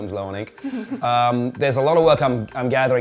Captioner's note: laughter